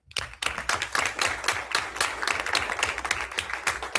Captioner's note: everyone applauds